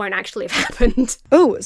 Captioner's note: laughs breathlessly